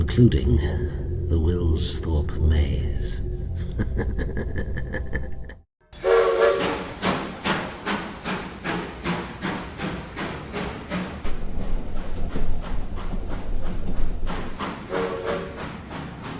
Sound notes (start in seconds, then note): 3.5 evil laughter; 5.9 train whistle; 8.8 steam train